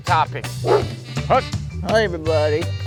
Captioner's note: dog Bark